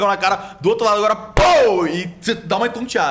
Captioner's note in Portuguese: pow